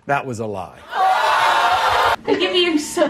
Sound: crowd jeering

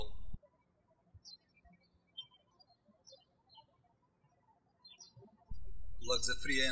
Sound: birds chirping

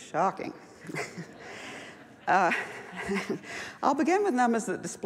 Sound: laughs

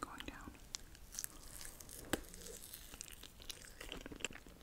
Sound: mochi crunching

